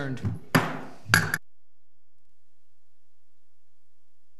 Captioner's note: gavel strikes